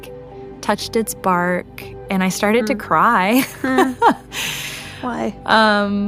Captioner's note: laughs